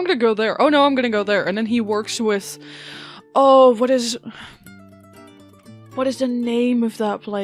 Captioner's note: sighs